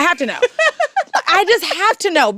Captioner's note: laughs